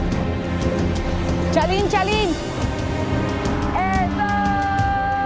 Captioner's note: Spanish spoken audio